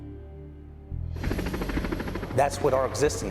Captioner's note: helicopter rotors